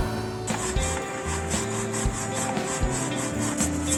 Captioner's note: brush brush brush